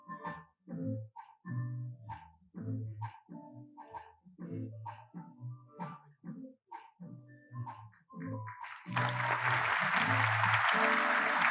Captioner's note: applause